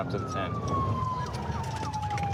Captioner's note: sirens